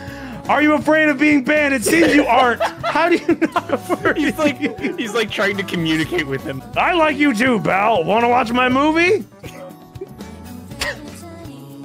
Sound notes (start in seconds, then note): 1.8 laughs